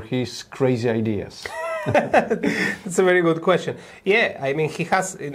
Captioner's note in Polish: śmiech